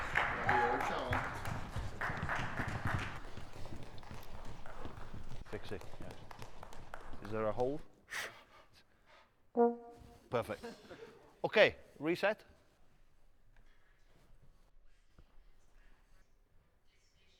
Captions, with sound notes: (audience applauding) Is there a hole? Perfect. Okay, reset.